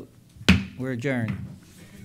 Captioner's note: gavel pounding